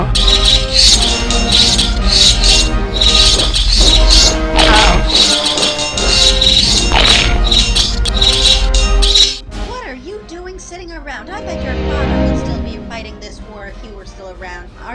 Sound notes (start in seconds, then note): 0.2 swords and spears clanging; 2.9 swords and spears clanging, marching; 4.5 Crunch; 4.8 swords and spears clanging; 6.8 swords and spears clanging, crunch; 7.4 swords and spears clanging